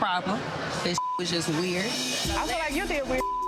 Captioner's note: beep; beep